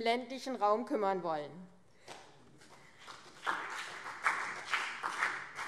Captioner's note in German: Beifall CDU und BÜNDNIS 90/DIE GRÜNEN